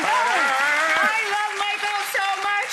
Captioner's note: audience clapping